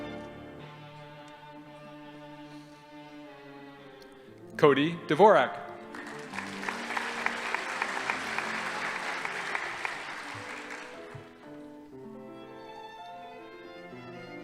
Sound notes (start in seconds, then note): 5.8 audience applauding